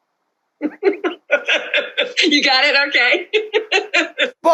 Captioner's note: laughter